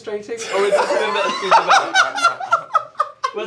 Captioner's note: laughter